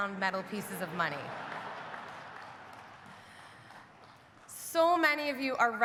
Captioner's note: audience laughing